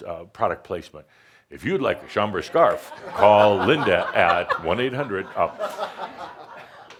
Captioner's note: laughter